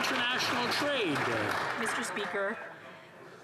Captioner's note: some Applause